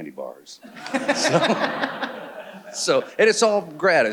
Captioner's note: audience laughing